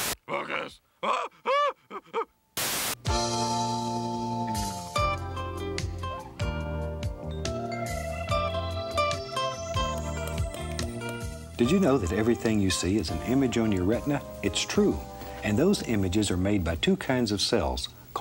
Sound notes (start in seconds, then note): 1.2 chatters; 3.0 slow-tempo music plays